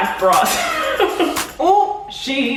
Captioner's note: laughing